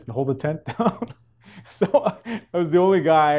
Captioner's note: chuckles